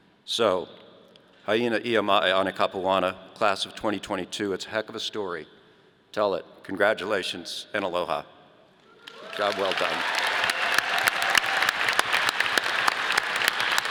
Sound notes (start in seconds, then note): 0.6 foreign language; 9.0 audience applauding